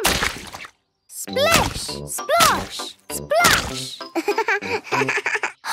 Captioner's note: laugh